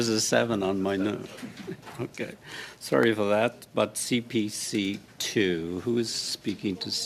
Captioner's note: laughter